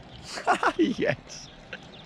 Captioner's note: laughs